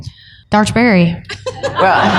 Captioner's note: laughter